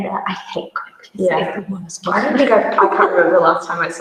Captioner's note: murmurs